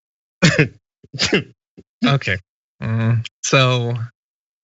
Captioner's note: laugh